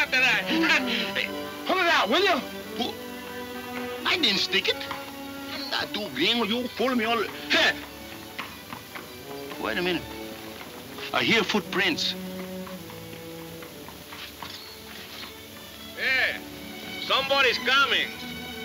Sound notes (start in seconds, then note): 5.3 mumbling in Spanish